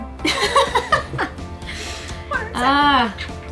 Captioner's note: laughs